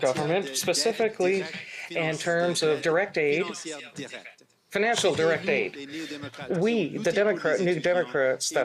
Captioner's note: speaking French